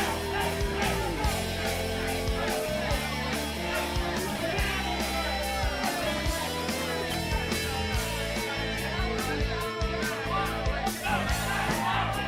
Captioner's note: crowd chatter; crowd cheering